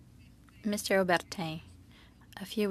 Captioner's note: speaking in French